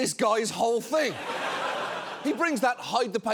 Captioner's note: audience laughing